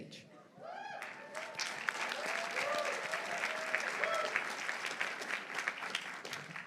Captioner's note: audience cheering; audience applauding